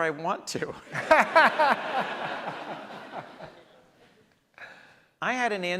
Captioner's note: audience laughs